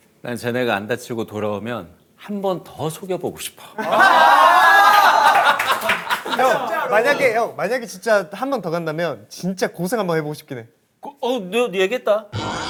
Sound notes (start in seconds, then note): 4.0 A cheer of joy?